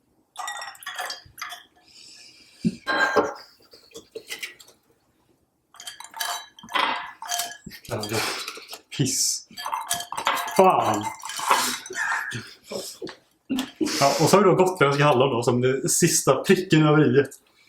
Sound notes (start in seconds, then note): 10.7 laughter